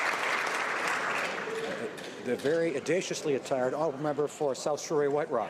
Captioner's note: applause